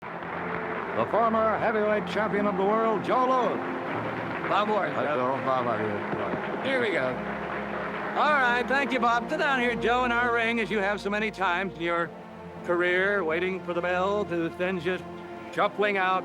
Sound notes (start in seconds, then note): 3.7 indistinct chatter